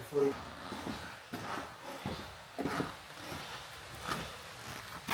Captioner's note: engine rumbling